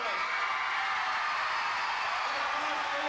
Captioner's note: crowd cheering